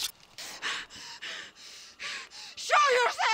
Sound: Brigit panting

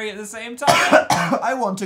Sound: cough

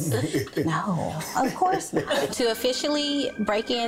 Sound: laughs

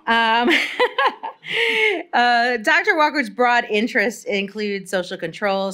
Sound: laughs

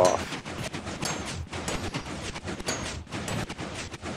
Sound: pistons continue making noise

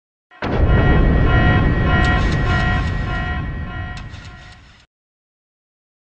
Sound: alarm sounds

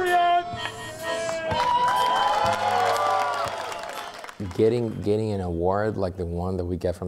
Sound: cheers and applause

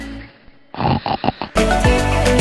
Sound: snoring!

